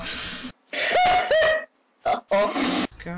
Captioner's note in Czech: výštěk